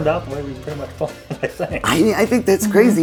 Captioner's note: male speaker chuckles